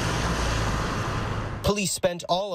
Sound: nats: car driving by the scene

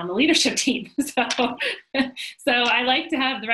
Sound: laughs

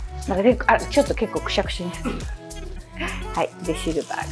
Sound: laughs

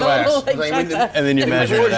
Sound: laughs

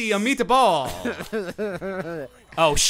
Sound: laughing

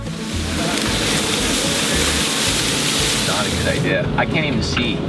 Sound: grass falling

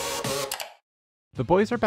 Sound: mouse click

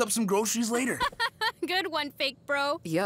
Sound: laughing

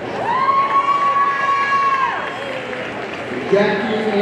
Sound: audience cheering

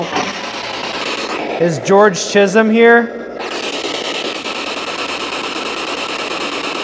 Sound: static signaling

